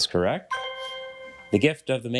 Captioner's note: bell dings